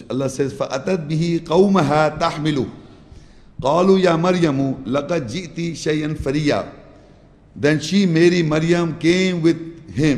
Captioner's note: Arabic